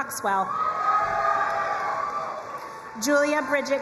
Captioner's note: crowd cheering and applauding